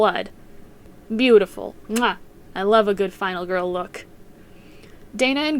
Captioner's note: mwah